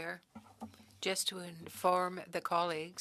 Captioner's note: speaking French